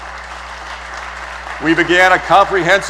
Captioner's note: applause